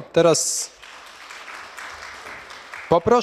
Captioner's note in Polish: oklaski